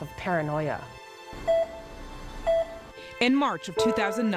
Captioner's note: heart monitor beeps; voiceover